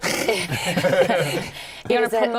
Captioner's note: laughter